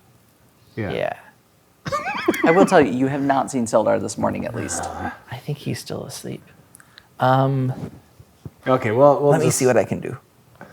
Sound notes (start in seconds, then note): 1.8 laughing; 4.5 grumbles